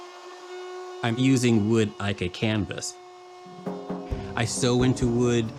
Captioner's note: router whirring